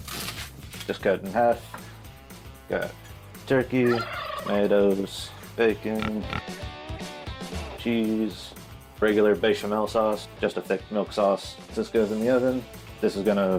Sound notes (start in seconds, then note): 0.0 soft crunch; 3.8 gobbling